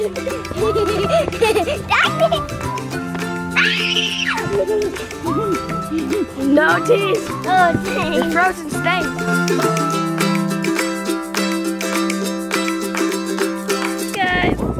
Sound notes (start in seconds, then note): 0.0 laughing; 3.6 screaming; 10.1 upbeat music